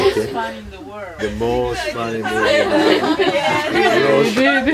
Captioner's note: more laughter